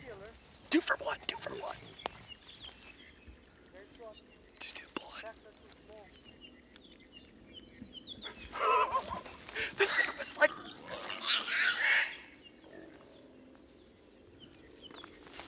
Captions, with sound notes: Two for one, two for one. Did you see the blood? That was like... (pig squealing)